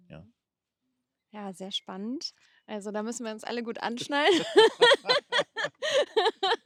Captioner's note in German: gelächter